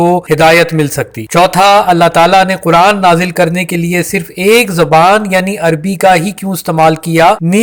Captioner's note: Arabic